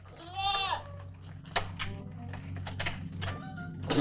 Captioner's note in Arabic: نباح الماعز